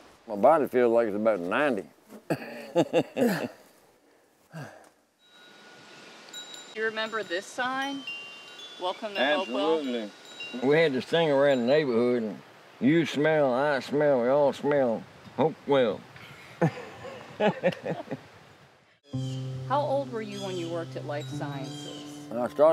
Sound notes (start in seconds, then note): 2.2 laughing; 5.2 wind chimes ringing; 16.5 laughing